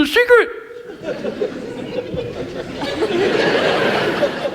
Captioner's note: audience laughs